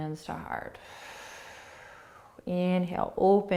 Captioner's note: exhaling